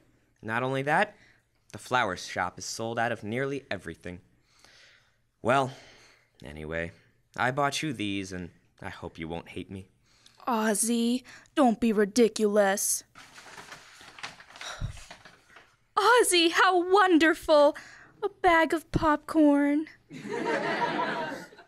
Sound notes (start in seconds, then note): 13.1 sound bag opening; 20.1 laughter